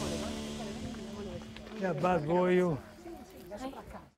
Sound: speaking Italian

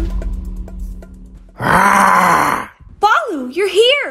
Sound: Baloo roars ferociously

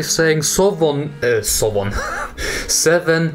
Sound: laughs

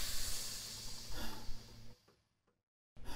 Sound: BEN sighs

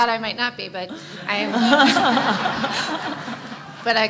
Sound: laughter

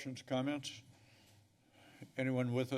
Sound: pause

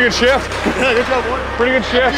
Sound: laughs

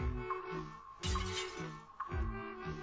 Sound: glass brakes

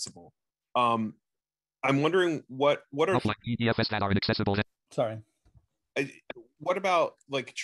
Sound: screen reader reads fast

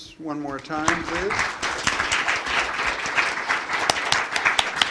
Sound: applause

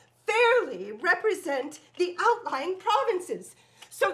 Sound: none

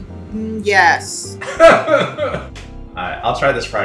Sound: laughs

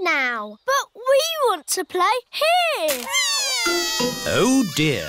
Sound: crying

